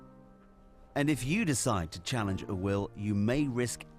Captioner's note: voiceover